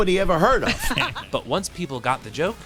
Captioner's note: laughing